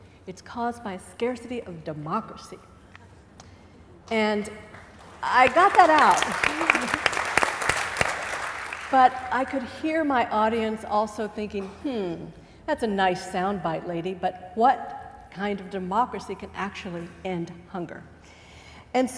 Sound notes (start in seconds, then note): 6.3 applause